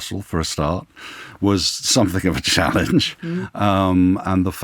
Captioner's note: laughs